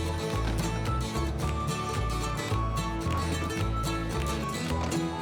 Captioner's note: doors thudding